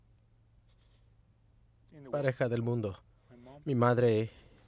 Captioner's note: shaky breathing